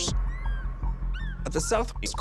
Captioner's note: birds gawking